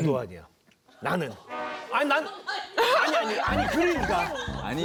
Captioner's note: murmur